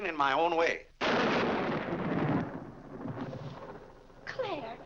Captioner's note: loud thunder